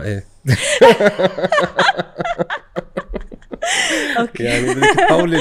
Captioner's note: laughter